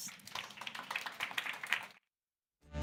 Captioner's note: applause